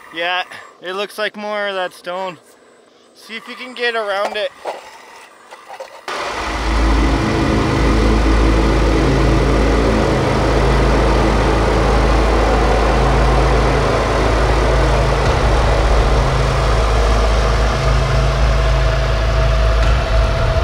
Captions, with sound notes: Yeah, it looks like more of that stone. See if you can get around it. (machinery engine hums)